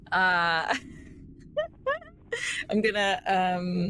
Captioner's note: laughing